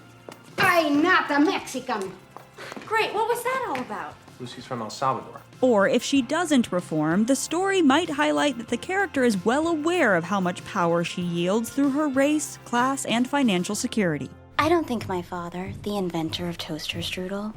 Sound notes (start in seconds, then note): none